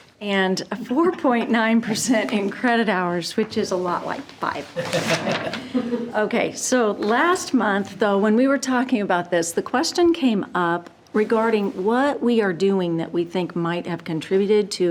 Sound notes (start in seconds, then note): 4.7 group chuckling